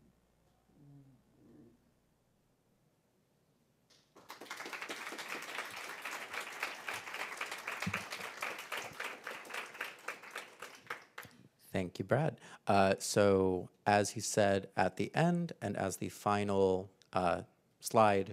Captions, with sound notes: listening to me. >> [APPLAUSE] >> Thank you, Brad. So as he said at the end and as the final slide showed or